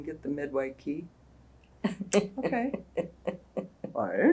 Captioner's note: laughter